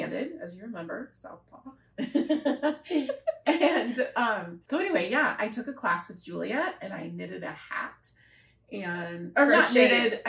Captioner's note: laughter